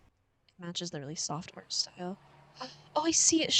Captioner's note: gasp